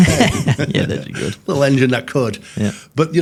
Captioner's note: hosts laughing